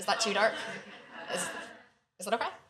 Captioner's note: laughter